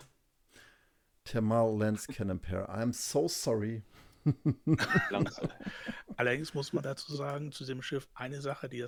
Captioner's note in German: gelächter